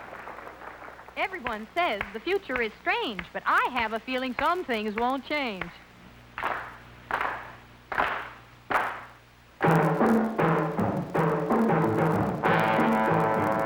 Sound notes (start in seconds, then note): 6.1 audience claps